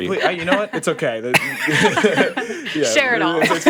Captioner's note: everyone laughing